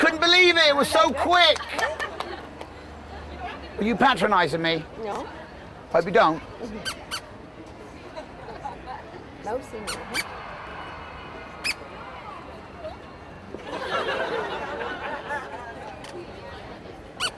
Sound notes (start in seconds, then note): 6.7 toy squeaking; 8.6 audience laughing; 9.8 toy squeaking; 13.6 audience laughing